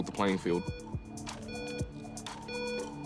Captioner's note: timer beeps